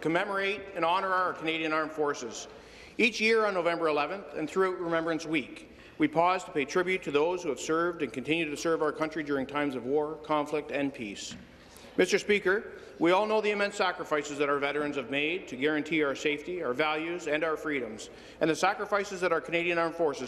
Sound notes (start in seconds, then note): none